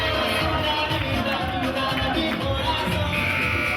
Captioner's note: applauding; music playing and buzzer sounding